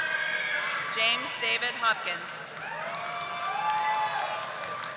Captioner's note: audience applauding